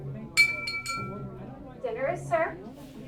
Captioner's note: bell chiming